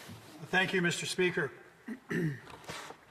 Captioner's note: speaking French